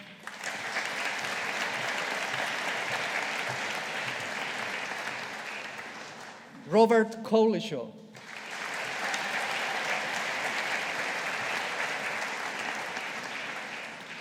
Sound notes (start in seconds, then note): 0.0 audience applauding; 8.1 audience applauding